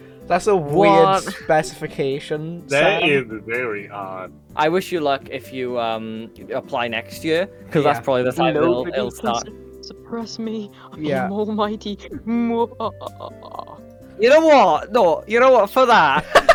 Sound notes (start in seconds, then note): 12.6 evil laughs; 16.2 laughs